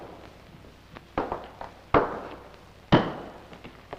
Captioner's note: thumping